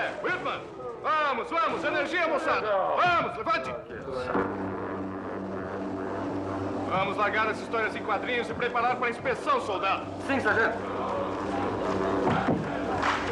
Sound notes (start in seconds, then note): 4.0 motor Humming